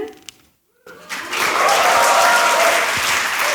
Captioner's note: applause